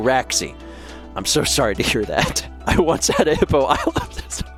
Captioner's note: wheezing